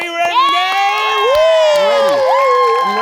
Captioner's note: audience cheering